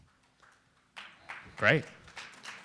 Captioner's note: applause